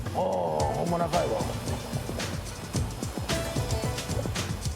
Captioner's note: speaking in foreign language